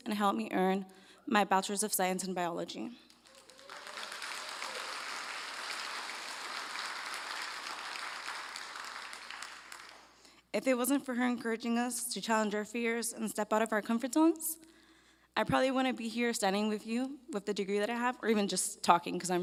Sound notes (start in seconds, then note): 3.1 applause